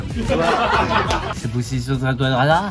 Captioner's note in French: Rires